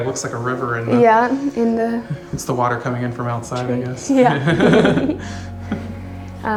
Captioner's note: laughs